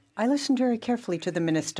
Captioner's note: speaking French